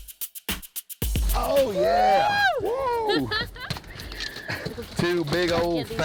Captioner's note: cheering